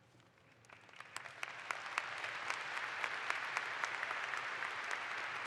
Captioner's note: audience applauds